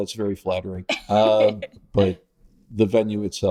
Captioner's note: laughing